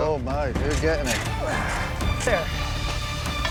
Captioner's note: grunts